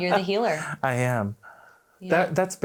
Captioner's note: laughs